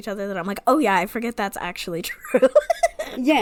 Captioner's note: laughs